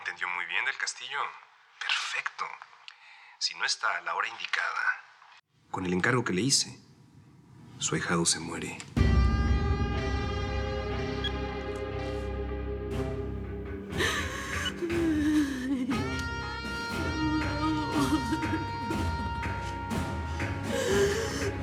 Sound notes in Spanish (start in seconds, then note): 15.7 Clara solloza